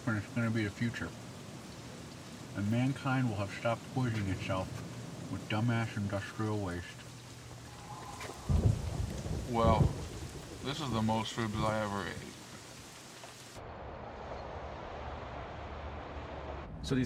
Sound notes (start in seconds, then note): 7.4 thunder rumbling; 13.5 traffic humming